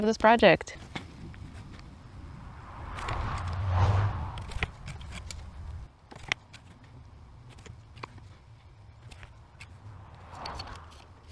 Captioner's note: foresty loom asmr with cars whooshing